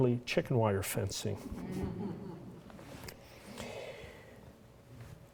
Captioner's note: laughter